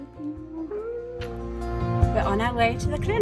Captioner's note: gentle music; kisses